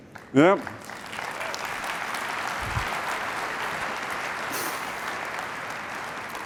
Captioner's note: applause